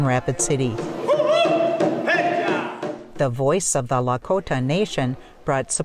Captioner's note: chanting